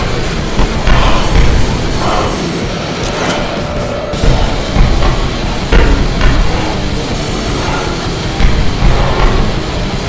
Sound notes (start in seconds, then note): 1.7 cameras click and flash